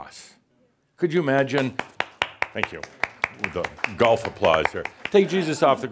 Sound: only applauds

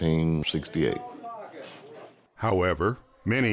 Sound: murmuring

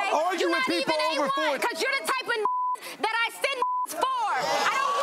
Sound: beep

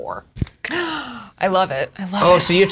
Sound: gasps

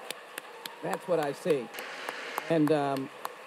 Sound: audience applauds

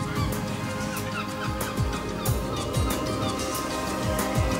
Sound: seagulls chirping

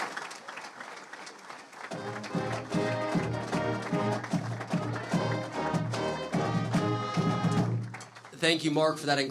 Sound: clapping

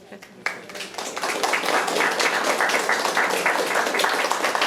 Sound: attendees applauding

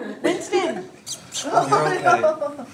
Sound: people chattering

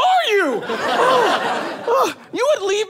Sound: audience laughs

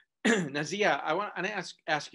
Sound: clears throat

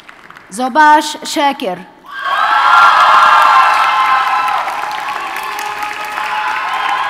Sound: audience cheers and applauds

